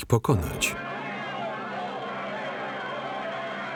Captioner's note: yelling